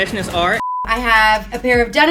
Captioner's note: beep